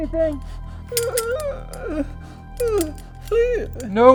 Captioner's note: groaning